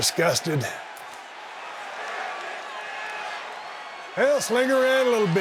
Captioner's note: audience cheering